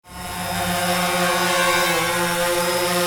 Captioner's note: drone flying